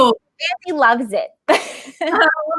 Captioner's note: laughing